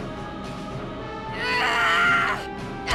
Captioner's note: Riley screams